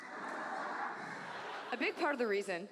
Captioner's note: audience laughs